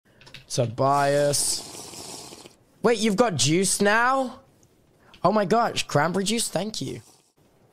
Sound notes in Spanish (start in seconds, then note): 1.2 ruido de bebida de minecraft